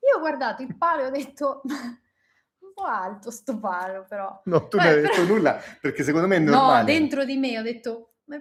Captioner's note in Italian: risate